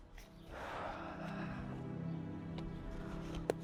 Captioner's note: Liz sighing